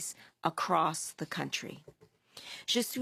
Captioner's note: speaking FRENCH